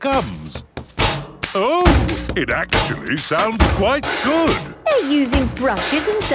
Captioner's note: rhythmic clanging